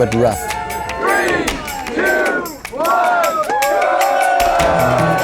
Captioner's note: crowd; cheering and yelling